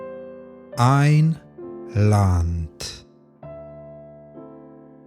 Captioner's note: german